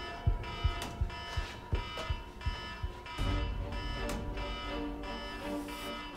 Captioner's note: alarm blares; tense instrumental music